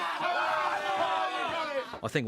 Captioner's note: laughing